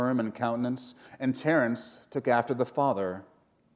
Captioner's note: none